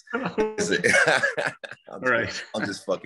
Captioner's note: laughing